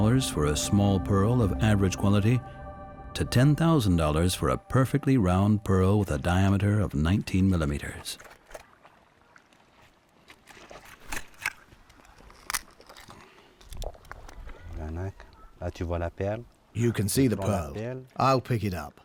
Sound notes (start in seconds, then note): 14.6 speaking French